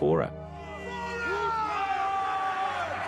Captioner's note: dwarves yelling